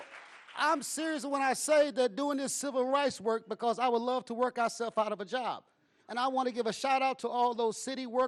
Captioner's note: applause